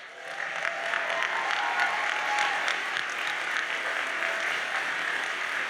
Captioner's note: audience cheers and applauds